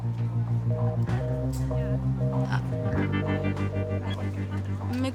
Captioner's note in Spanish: Sonido de teléfono descolgado